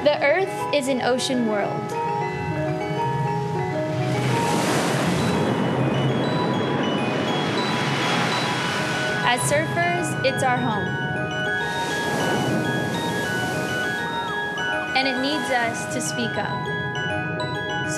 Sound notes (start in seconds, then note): 2.9 waves crashing